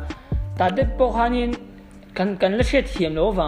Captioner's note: none